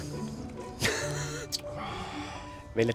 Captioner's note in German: lacht auf schweizerdeutsch